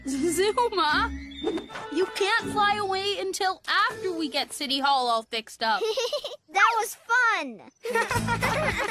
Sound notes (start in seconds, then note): 7.8 chuckles; 7.8 laughing